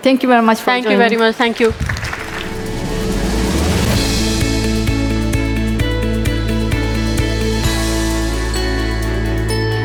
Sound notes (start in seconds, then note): 1.0 attendees clapping; 4.0 upbeat music